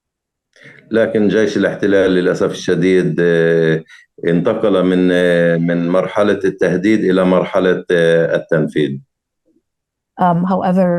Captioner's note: speaking arabic